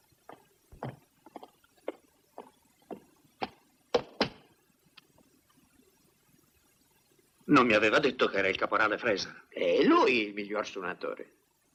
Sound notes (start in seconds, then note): 3.9 stamps floor